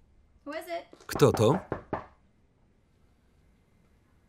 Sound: knocking on door

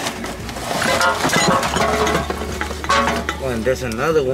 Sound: clanging

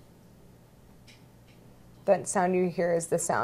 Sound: softly clicks

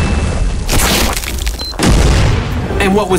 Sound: chimes and explodes; splats; beeps and explodes

